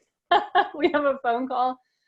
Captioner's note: laughing